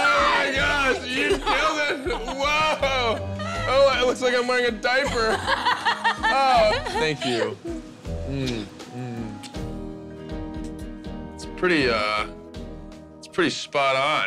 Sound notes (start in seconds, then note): 5.0 laughing